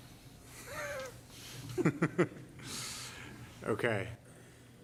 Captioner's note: laughs